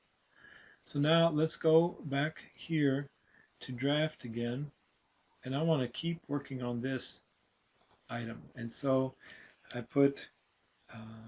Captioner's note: typing